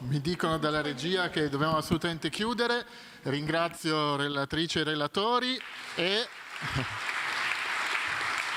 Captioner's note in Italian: Applauso